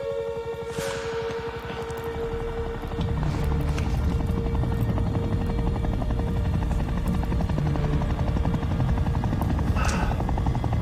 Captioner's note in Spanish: Sonido del motor de un helicóptero